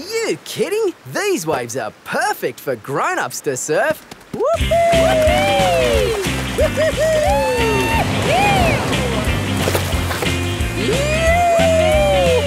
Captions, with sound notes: Are you kidding? These waves are perfect for grown-ups to surf! (BOTH WHOOPING)